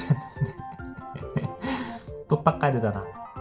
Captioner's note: cries while laughing